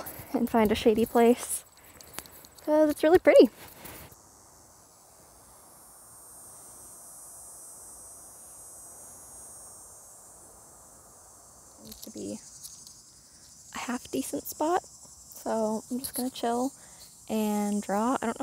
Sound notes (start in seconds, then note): 7.9 really loud cicada screeching